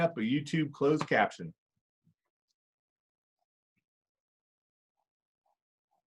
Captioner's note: silence